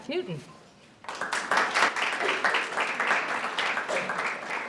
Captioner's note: audience applauds